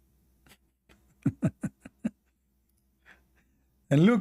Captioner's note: Ketawa